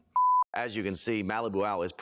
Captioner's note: film beeps